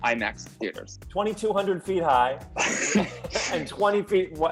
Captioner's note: Thomas laughs